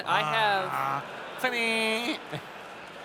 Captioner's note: laughter